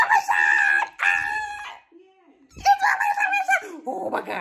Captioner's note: squeals